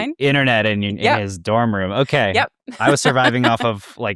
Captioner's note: laughs